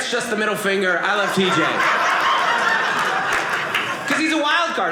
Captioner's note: audience laughing